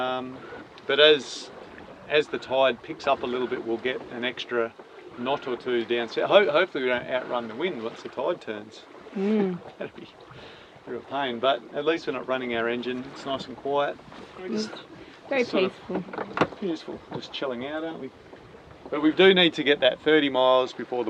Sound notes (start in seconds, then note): 9.2 chuckles